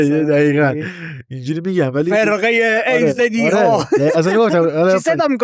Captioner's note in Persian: خنده